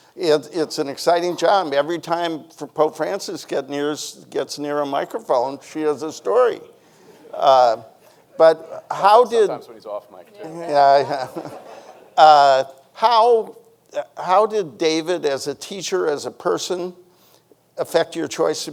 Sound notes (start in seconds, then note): 6.2 audience chuckling; 10.3 chuckles